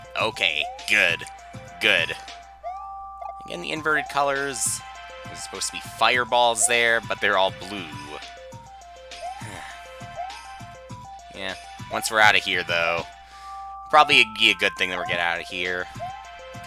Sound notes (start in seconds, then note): 9.4 sigh